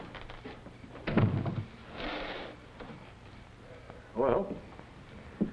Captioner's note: door closes